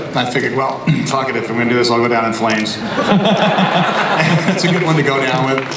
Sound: laughter

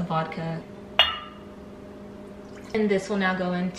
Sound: bottle clanking

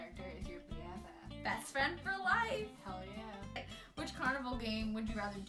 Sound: sarcastically

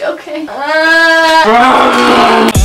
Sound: groans

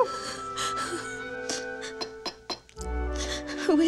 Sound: crying

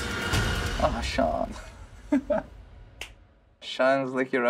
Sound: laughs

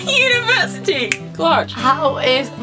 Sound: clicks

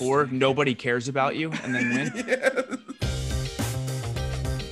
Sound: laugh

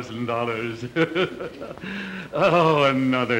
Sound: cackling

